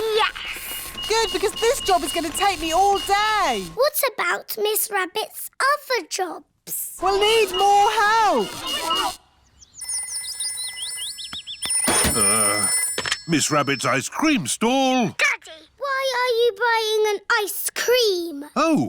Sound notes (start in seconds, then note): 9.6 phone rings